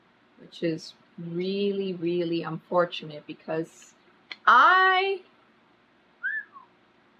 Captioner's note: whistles